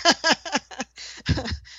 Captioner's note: laughter